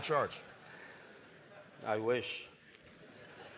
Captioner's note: laughter